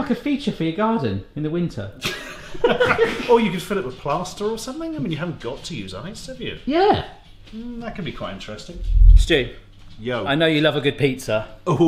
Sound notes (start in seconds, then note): 2.0 both laugh